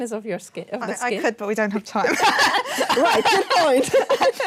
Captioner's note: laughing